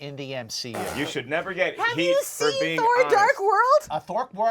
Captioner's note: blows raspberry